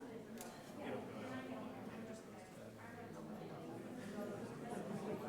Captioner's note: people conversing quietly